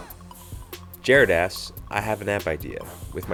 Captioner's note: voiceover